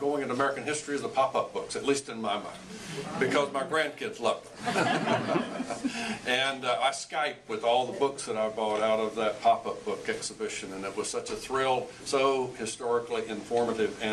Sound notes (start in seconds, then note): 4.6 laughs